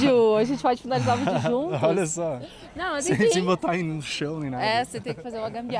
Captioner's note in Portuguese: risadas